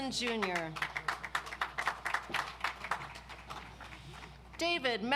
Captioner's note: audience applauds